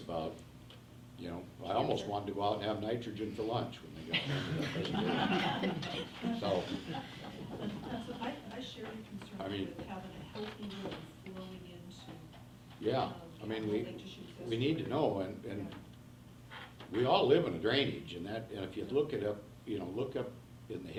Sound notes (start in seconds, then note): 4.1 everyone laughs; 10.8 faintly speaking